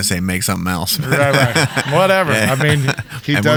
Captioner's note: laughing